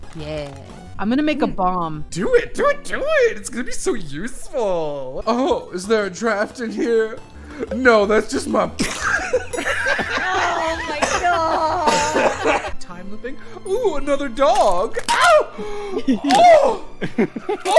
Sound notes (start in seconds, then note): 8.8 laughter